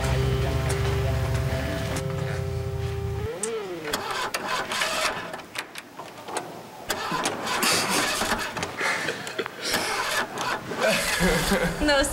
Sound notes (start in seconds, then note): 4.7 engine turning over; 9.0 laughing